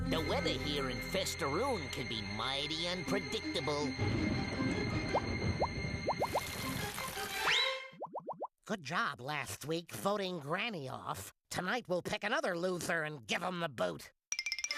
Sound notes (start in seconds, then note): 3.9 thunder rumbling